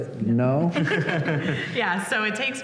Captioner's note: laughter